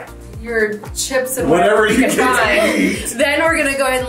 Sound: laughs

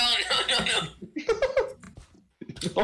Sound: chuckles

